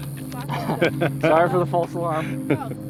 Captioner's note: laughter